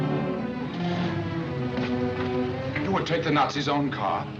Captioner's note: suspenseful music; car engine starts